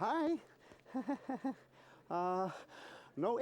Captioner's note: nervous chuckle